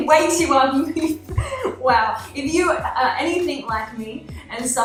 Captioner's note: laughing